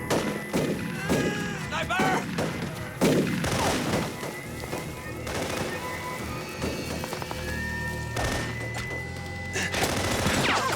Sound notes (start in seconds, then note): 0.2 gunshots; 3.0 gunshots